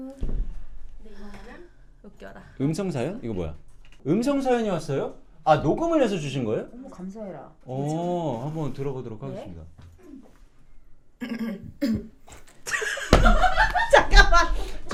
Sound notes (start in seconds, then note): 11.2 clears throat